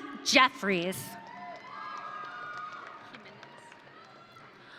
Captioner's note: audience cheering